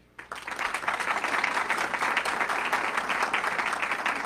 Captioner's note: audience clapping